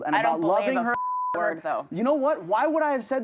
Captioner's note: beep